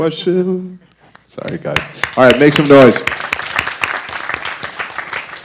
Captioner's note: audience applause